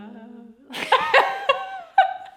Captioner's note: laughing